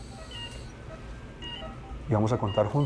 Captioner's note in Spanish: Bip del monitor